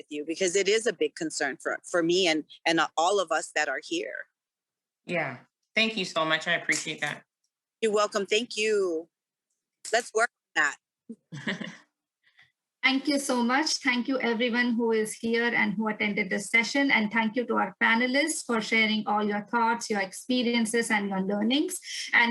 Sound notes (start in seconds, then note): 11.2 chuckling